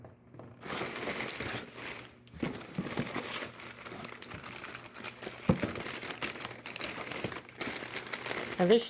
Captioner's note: crinkling of packing paper